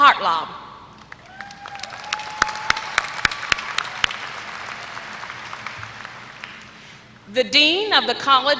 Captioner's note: applause